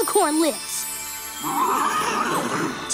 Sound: neighing

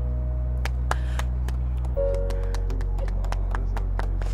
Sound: people applauding

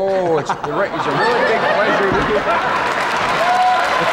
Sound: applause

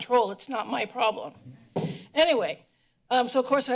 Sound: thud

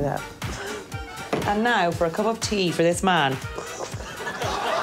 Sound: laughter

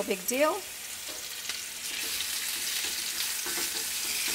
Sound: chicken sizzles

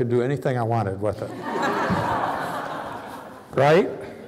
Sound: laughter

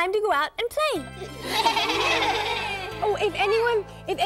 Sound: everyone laughs

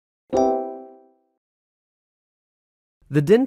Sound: chiming

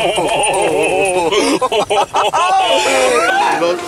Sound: peak nervous giggles; stronger nervous giggles

